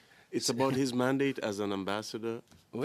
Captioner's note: speaking in French